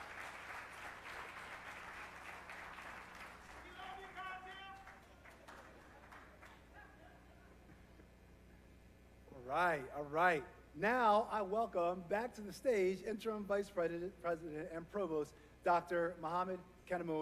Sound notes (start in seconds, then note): 0.0 applause; 0.9 cheering